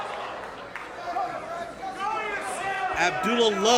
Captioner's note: crowd yells